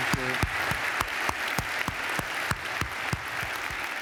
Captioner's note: applause